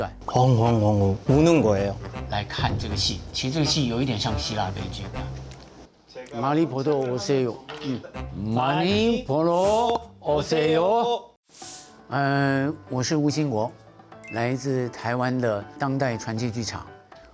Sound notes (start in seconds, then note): 0.2 speaking in Korean; 2.1 speaking in Chinese; 8.4 speaking together; 12.6 speaking in Chinese; 14.2 upbeat music